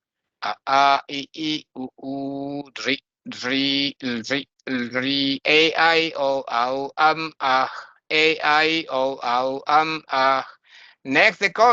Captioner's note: chanting